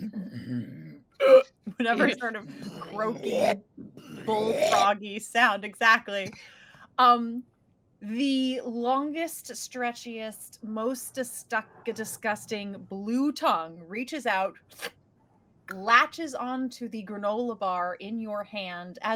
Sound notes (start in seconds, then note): 0.1 growling and croaking deeply; 2.6 croaking deeply; 14.4 imitates suction sound